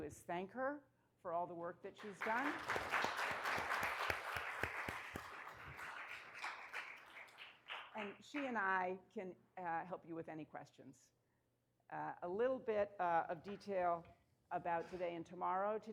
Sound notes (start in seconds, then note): 2.0 applause